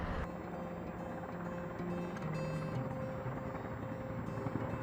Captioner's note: helicopter whirring